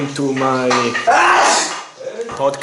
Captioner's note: intense italian sneeze